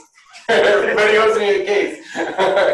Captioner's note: laughter